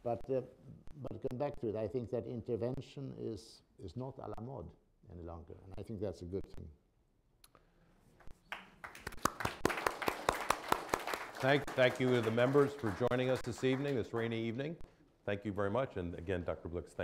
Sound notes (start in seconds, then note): 8.5 applause